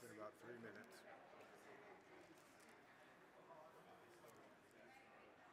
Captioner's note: crowd chattering